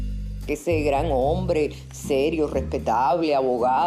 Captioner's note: speaking Spanish